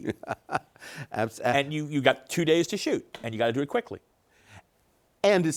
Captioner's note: laughing